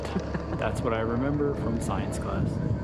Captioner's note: laughs